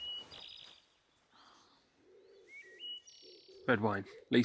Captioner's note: birds chirping